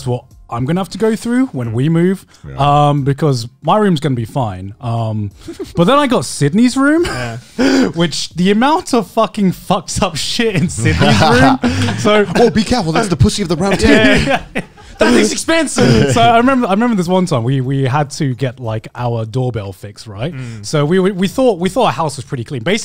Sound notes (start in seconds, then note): 7.2 laughing; 14.2 all laughing